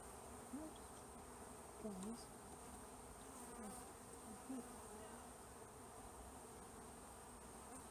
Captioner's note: mutters while parting frames